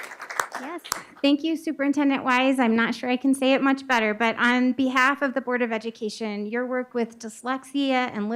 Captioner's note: applause